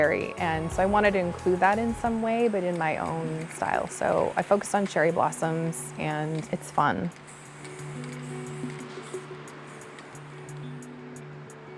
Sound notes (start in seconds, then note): 3.6 gentle music continues; 3.6 spray can hissing